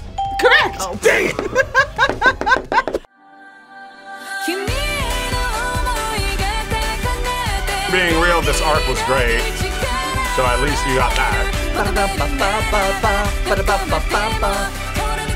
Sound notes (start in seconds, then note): 0.1 bell rings; 0.8 laughs